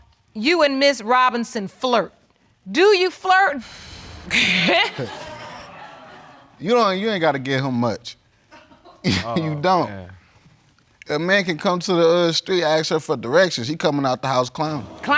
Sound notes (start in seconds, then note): 4.3 both laughing; 8.5 chuckles